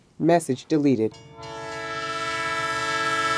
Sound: train noise

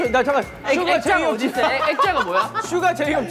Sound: haha

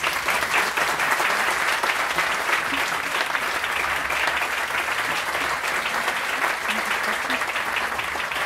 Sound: applause

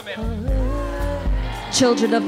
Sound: audience cheering

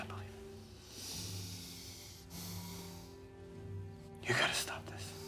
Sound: sighs

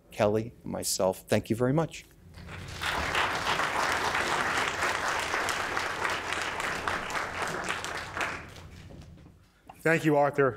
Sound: applause

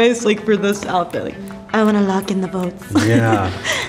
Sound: laughs

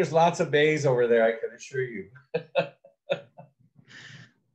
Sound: laughs

